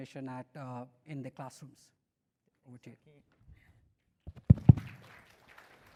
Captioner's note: applause